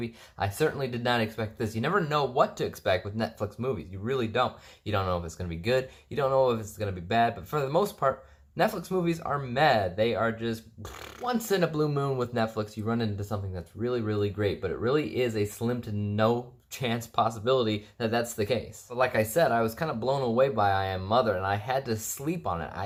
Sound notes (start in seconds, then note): 10.7 farting sound